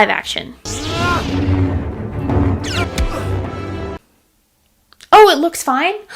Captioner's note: lightsaber noises